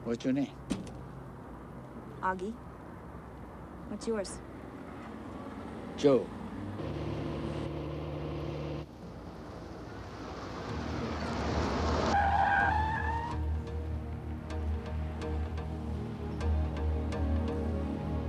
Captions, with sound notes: - What's your name? - Oggie. What's yours? - Joe. (car engines revving) (tires screeching) (dramatic music)